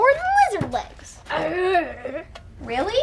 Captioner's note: Frank grunts